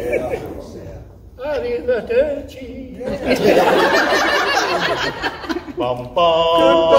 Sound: laughter; laughter

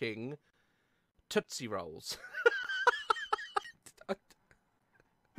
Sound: laughing

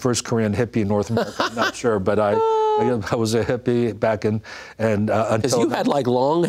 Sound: laughs

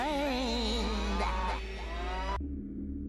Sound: cow mooing

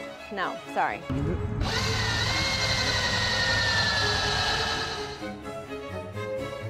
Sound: drill whizzing

